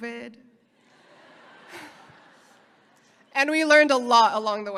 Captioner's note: audience laughing